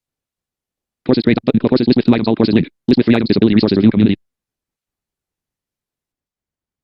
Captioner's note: screen reader narrating extremely rapidly